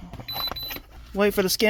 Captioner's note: beep beep